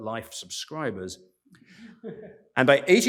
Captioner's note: laughter